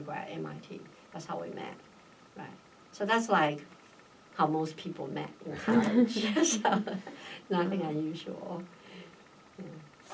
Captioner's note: all laugh